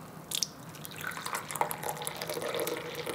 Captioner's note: soft rippling